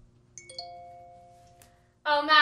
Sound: chimes

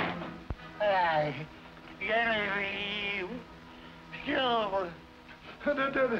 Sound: pained

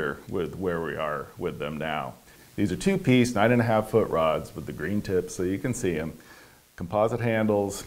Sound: none

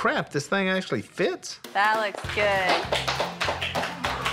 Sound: applause

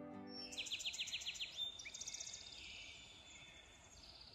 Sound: birds chirping

